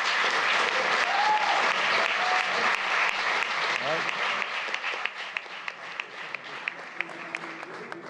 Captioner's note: applause